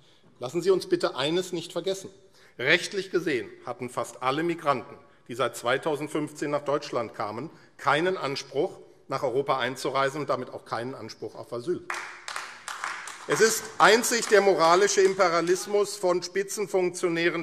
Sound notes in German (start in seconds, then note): 11.8 Beifall AfD